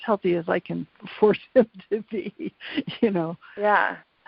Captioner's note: laughs